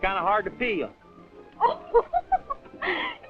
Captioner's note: Henrietta laughing